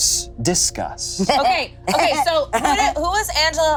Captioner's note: jeering